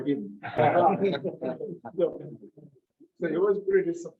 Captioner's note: members laugh